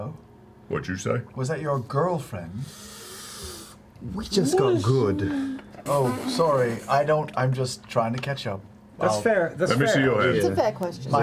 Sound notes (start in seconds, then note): 2.6 sharp inhale